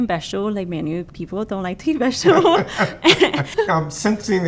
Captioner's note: laughs